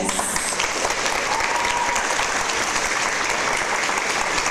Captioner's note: audience applause